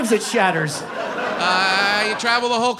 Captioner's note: audience laughs